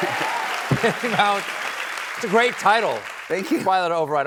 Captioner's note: cheers and applause